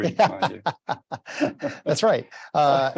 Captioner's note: laughs